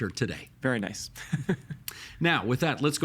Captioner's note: chuckling